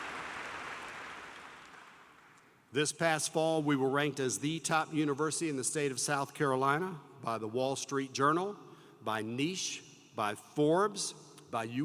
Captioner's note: applause